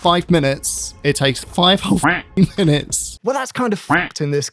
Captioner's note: quacking; quacked